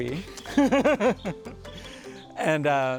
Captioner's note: laughs